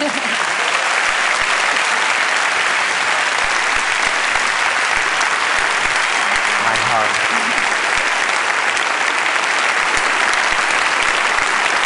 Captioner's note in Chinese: 掌聲